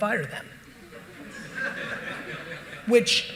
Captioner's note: audience laughing